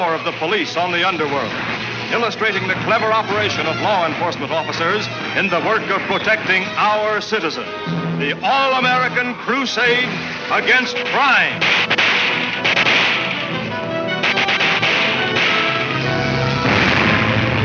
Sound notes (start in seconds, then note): 9.9 guns firing; 11.2 dramatic orchestra music